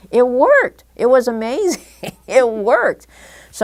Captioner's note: chuckle